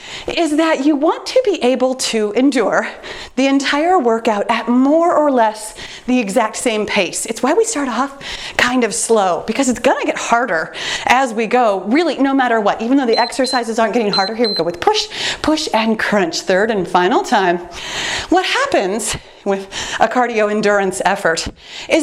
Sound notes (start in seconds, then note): 14.0 timer beeps